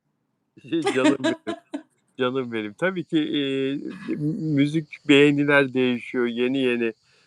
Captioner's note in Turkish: kahkaha